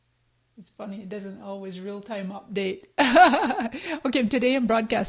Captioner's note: laughs